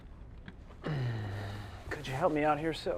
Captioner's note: uncomfortable sigh